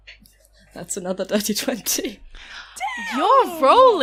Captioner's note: laughing